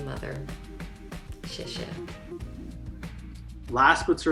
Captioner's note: speaking Chinese